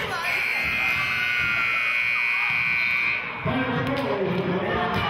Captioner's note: buzzer sounding